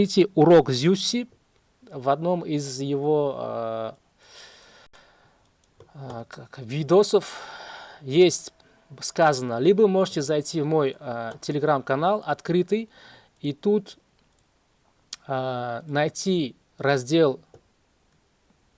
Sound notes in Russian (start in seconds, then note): 7.2 вздыхает